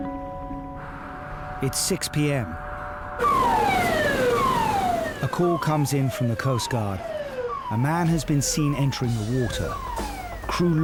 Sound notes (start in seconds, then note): 0.9 traffic humming; 3.1 siren blaring